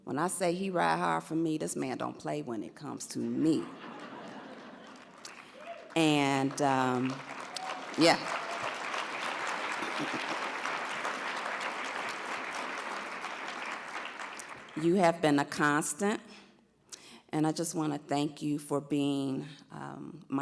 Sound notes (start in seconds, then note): 3.6 audience laughs; 8.8 audience applauds